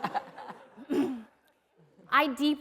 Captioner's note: laughter